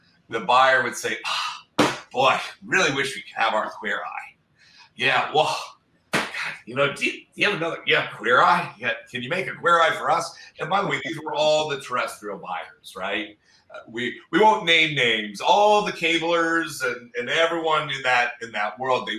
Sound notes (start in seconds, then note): 6.2 sighs